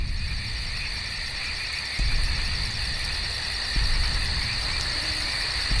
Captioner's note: frogs croaking and water babbling